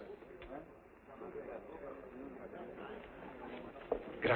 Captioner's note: people chattering